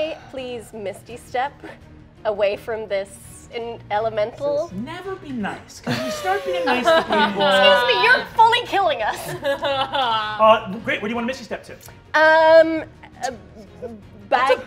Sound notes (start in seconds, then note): 5.8 players laughing